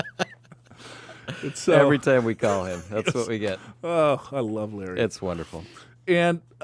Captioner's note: laughs